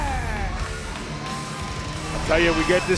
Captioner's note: crowd cheering